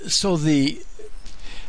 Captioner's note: none